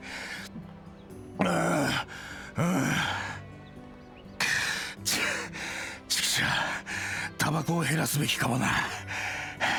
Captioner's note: pant, pant